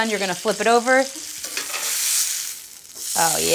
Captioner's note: sizzling